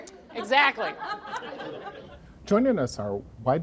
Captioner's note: laughing